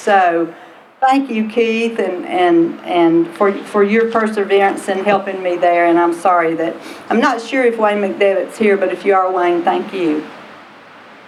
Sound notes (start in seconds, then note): none